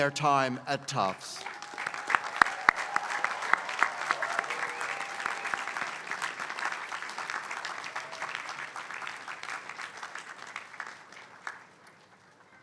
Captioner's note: applause